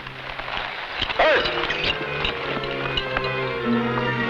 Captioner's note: man shouts; tense music